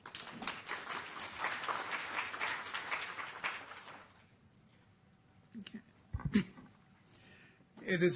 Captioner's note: applause